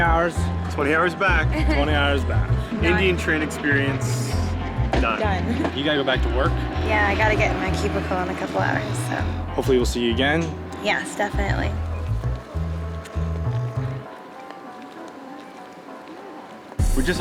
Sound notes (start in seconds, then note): 2.4 laughing